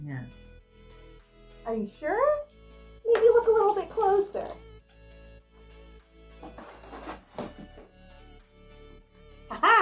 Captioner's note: scraping